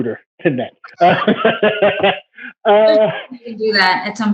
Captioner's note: laughs